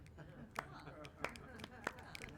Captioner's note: clapping